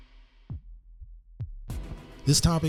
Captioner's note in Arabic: نبض القلب مستمر